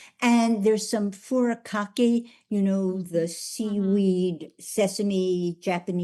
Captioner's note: none